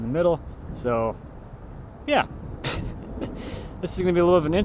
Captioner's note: laughing